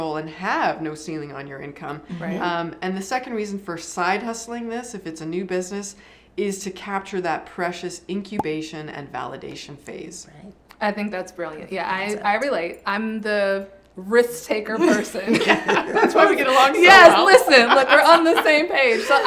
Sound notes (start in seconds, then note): 15.1 everyone laughs